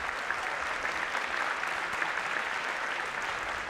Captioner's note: applause